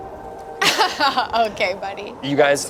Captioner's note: laughs